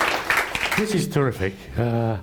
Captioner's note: applause